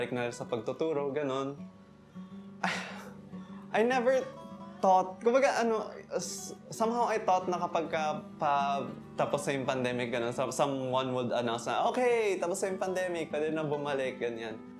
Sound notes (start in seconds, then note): 2.6 exhale